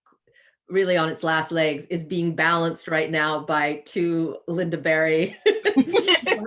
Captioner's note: laughs